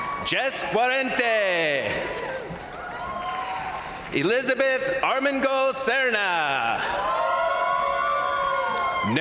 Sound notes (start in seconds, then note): 0.0 crowd applauding; 0.0 crowd cheering; 0.0 crowd applauding; 1.5 crowd cheering; 6.3 crowd applauding; 6.5 crowd cheering